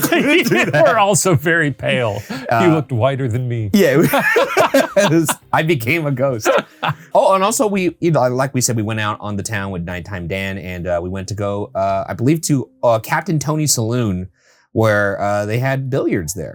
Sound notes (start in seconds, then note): 0.0 both laughing; 3.9 both laughing